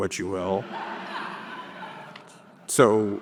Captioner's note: audience laughing